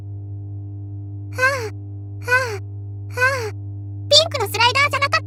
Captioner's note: pant, pant, pant…